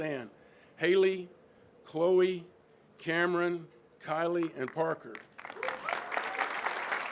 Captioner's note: crowd claps